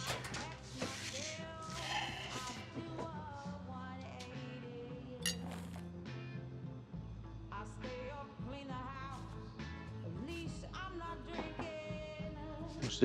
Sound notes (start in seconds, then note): 1.8 sighs